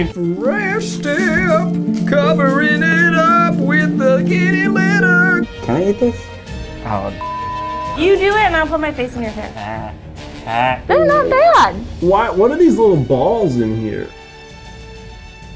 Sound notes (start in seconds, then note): 7.2 beep; 9.6 man growls softly